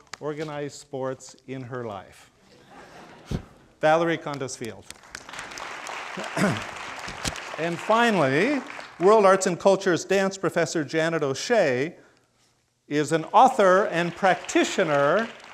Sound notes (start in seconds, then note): 2.5 crowd laughing; 5.0 crowd applauding